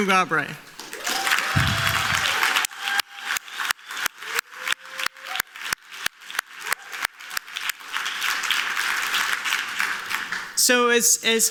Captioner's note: applause